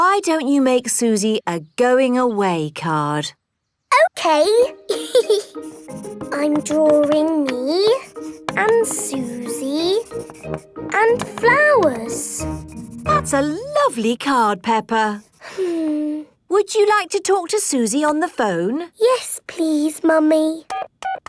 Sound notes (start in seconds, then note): 4.9 giggles; 15.4 peppa sighs